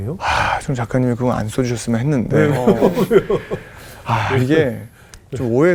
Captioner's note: laughing